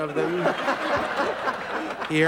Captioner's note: audience & Crew Laugh